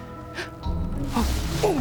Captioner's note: gasp!